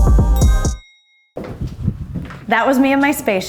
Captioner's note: upbeat pop music; elevator dings